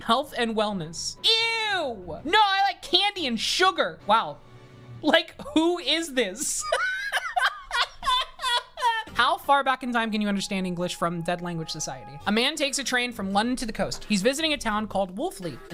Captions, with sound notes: "Health and wellness." Ew! No, I like candy and sugar. Wow. Like, who is this? [laughing] "How far back in time can you understand English?" from Dead Language Society. "A man takes a train from London to the coast." "He's visiting a town called Wulfleet,"